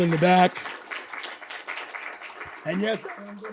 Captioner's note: applause